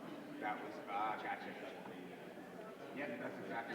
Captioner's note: indistinguishable chatter